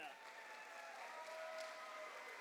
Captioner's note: cheers and applause